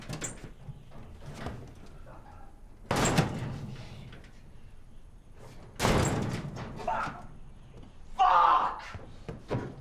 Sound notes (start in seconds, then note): 2.9 bangs cabinet; 5.8 kicks cabinet; 9.6 bashes desk